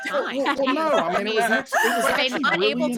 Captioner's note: laughing